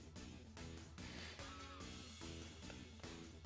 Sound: chuckles

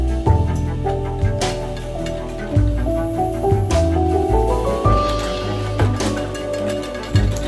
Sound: rat-tat-tat of press starting up and running

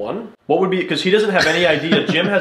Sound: laughs

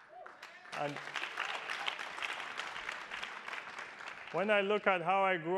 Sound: attendees applauding

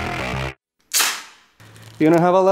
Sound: tape sounds

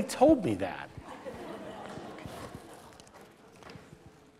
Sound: laughter

